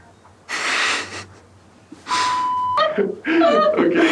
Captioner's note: laughing